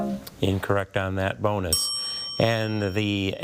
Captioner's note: tone clunks; bell dings